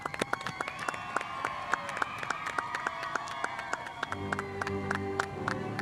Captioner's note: spectators applauding; spectators cheering